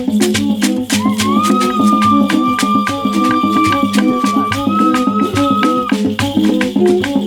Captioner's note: shrieks